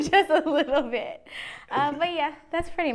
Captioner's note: laughs